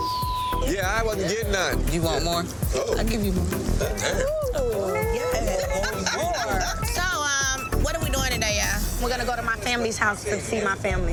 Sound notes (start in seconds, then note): 0.0 beep; 6.6 woman laughing